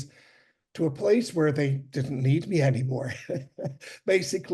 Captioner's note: chuckles